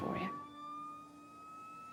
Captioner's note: siren wailing